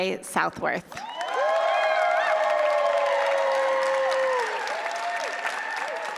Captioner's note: applause